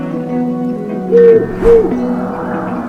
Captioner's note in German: Eule ruft